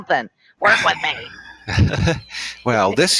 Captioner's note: laughs